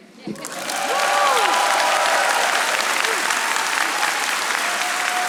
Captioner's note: audience applauding